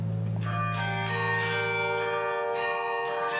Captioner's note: tower bells ringing